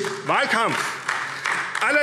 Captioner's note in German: Beifall AfD